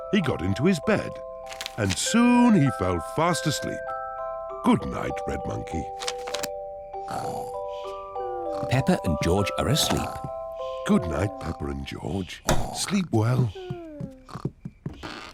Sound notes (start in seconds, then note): 7.0 peppa and george snore; 15.1 yawns